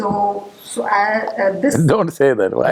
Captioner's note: laughter